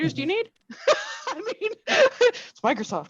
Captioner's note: laughs